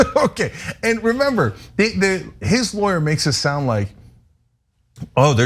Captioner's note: laugh